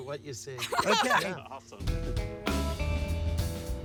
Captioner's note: laughs; gentle music